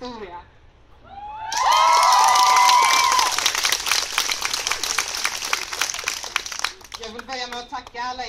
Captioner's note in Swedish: Jubel och applåder